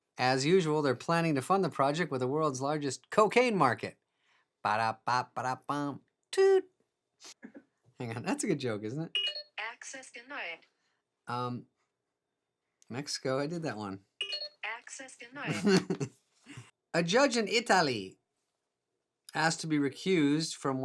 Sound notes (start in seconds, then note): 9.1 phone beeping; 10.0 female Robotic Voice; 14.1 female Robotic Voice; 14.2 phone beeping; 15.5 chuckling